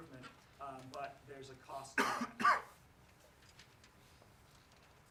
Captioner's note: coughs